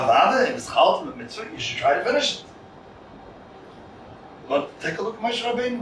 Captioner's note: Hebrew